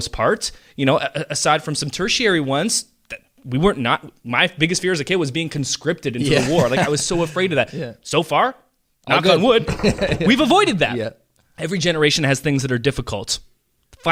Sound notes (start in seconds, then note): 6.2 chuckles; 9.9 knocking